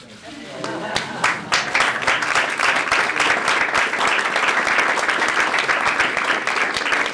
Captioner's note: applause